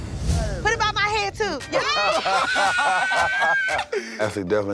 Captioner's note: laughter, cheers